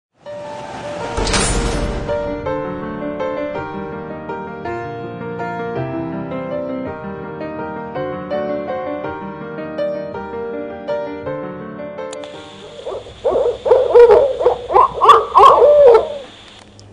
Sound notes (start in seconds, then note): 1.0 metal door slams shut; 12.3 barred owl call